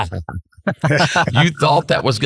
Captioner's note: laughing